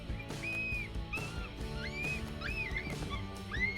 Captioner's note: coyote call